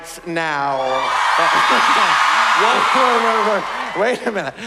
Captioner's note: cheering